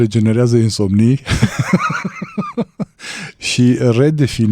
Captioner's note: laughter